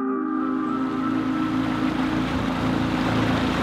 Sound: boat revving

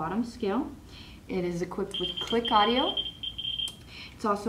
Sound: audio clicks

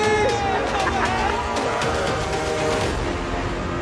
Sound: cheering

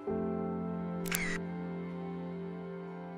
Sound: camera shot

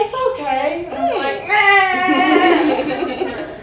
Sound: fake cries

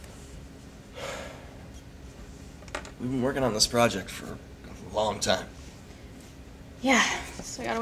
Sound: sighs

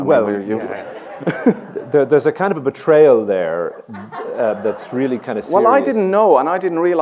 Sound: laughter

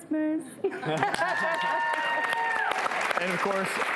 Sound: audience cheering

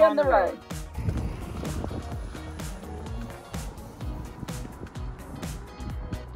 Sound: engine humming; wind howling

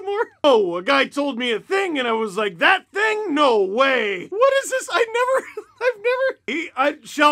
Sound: laughter

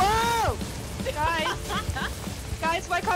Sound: laughs

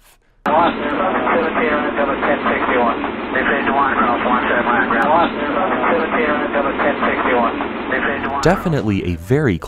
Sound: talking over radio

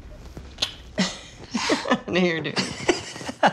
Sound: laughs

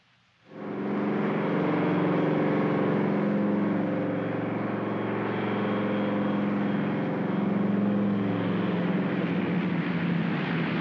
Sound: aircraft rumbles

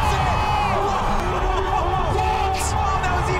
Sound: crowd cheering

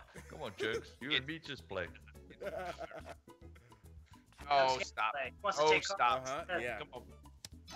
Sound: laugh

